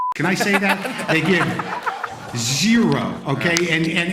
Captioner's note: laughter